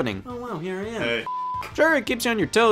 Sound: beep

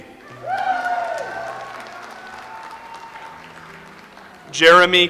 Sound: audience applauds

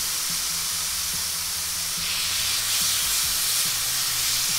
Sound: pan sizzling

